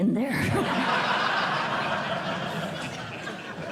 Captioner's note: laughter